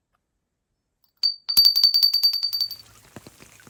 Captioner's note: bell rings; rain splashes